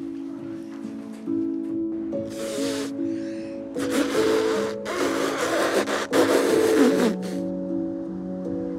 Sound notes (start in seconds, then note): 0.1 melancholy piano music; 3.7 balloon inflation sounds